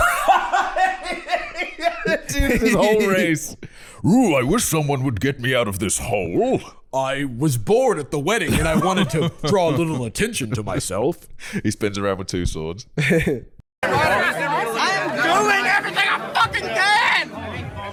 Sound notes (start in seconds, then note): 0.0 laughing; 4.0 deep voice